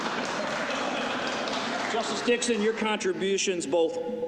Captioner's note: applause